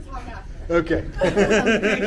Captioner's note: laughter